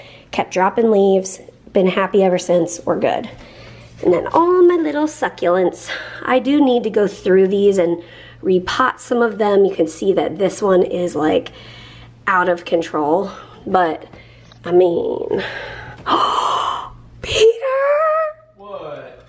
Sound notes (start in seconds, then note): 15.4 gasps